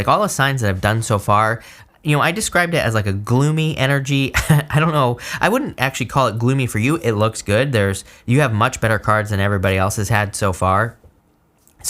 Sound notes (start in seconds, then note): 4.3 chuckles